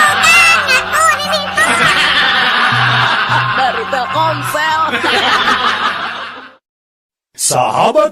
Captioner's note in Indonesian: tertawa